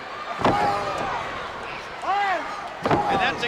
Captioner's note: blows thudding